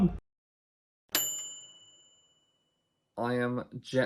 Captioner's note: bell dinging